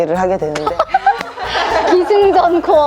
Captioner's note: laughter